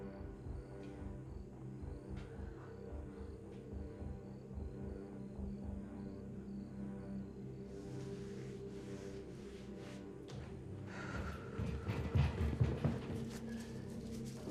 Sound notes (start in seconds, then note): 10.2 footsteps retreating; 10.8 Claire sighs; 13.2 ties rustling